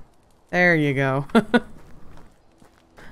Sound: laughs

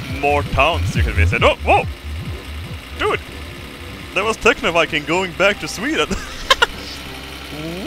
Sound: laughs

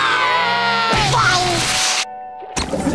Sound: screaming

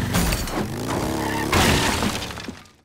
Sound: crashing

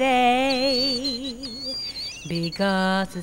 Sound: birds chirping

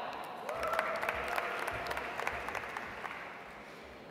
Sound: audience applauds

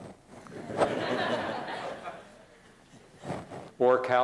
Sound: laughter

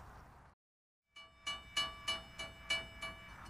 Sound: train bells ding

